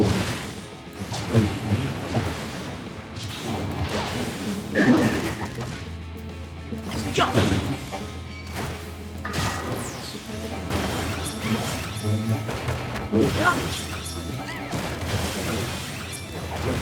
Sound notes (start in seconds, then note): 4.5 gun firing; 13.3 dramatic music